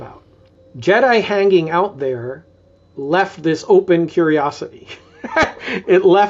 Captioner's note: laughs